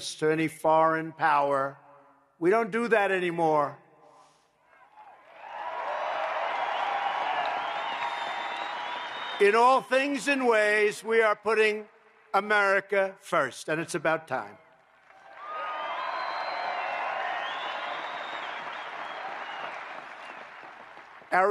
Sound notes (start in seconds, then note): 5.0 applause; 14.7 applause